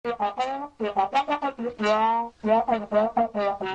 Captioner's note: horn blowing